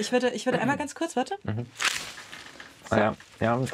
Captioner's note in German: Er lacht; Knacken